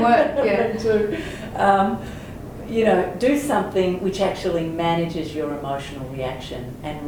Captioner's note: laughter